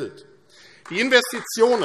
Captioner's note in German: Beifall AfD